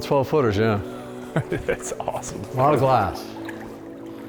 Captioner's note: laughs